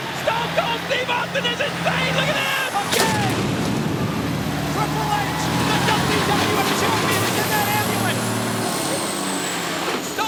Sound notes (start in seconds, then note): 3.1 truck thuds; 4.6 audience cheers